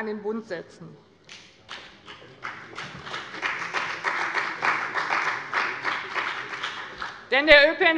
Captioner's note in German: Beifall bei dem BÜNDNIS 90/DIE GRÜNEN und der CDU